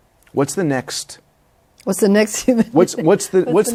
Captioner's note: laughs